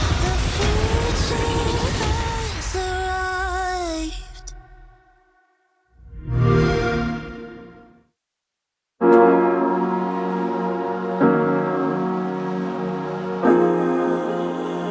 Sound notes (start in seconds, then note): 6.3 Xbox sound; 11.0 upbeat music playing